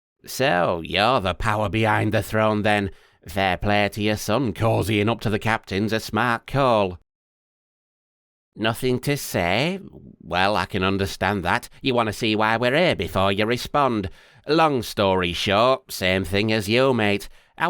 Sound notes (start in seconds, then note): 7.2 silence